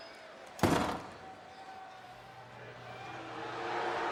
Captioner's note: door bangs; audience booing